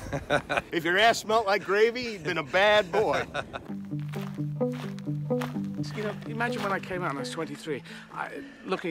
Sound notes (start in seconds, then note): 0.0 Kevin laughs; 2.6 Kevin laughs; 3.6 tranquil music